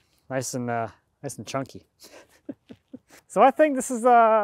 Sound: laughs

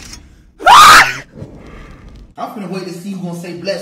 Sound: screams

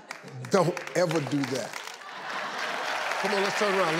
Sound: audience laughs

